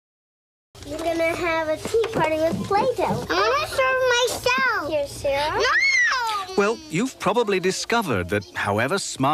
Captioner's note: girls talking